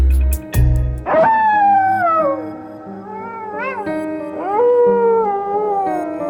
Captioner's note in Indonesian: suara lolongan serigala